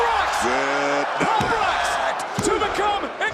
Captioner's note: crowd cheers